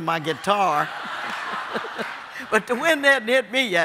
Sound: audience laughing

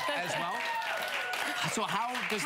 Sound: audience cheering

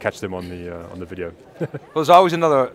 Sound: laughs

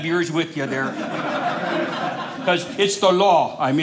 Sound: audience laughing

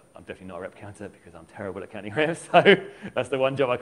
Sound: laughs

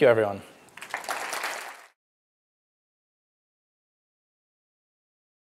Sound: applause

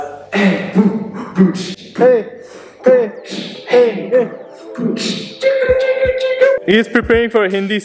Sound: beatboxing

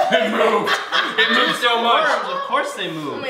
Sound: laughter

